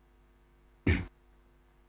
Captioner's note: cough